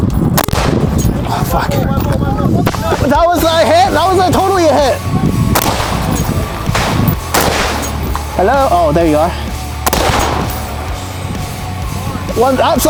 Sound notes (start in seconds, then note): 5.5 gun banging; 9.8 gun bangs